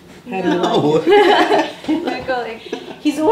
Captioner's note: all laughing; laughing